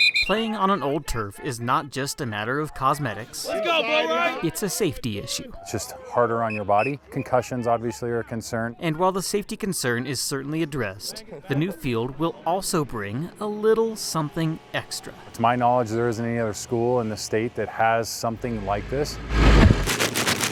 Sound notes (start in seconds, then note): 19.8 turf falling to ground